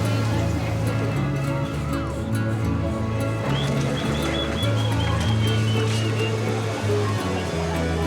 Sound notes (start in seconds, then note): 3.4 whistling